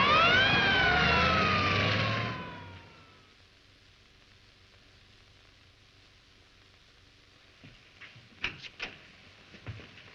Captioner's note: siren wailing